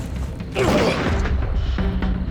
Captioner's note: gunshot